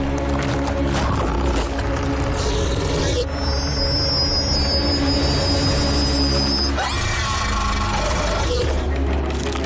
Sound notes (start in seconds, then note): 2.3 screeching